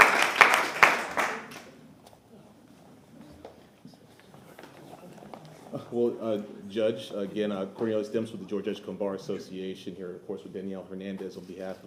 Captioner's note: applause